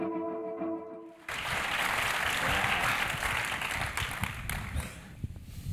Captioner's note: applause